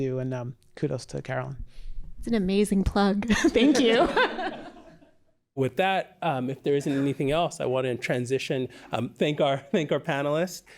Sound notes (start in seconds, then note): 3.3 laughter